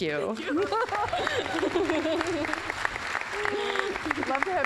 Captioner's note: applause